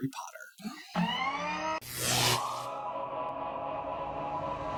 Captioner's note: mechanical noises